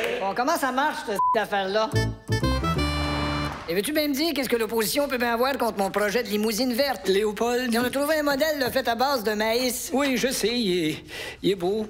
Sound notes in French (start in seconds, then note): 1.2 bip!